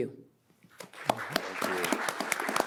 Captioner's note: audience applauds